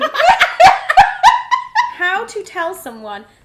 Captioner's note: both laugh